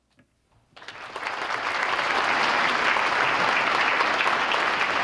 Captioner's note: applause